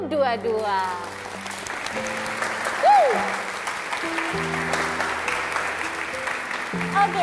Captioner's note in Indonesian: tepuk tangan